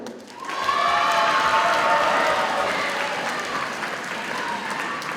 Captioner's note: audience cheers and applauds